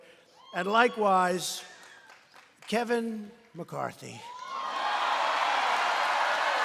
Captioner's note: applause